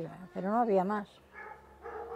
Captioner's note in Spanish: ladridos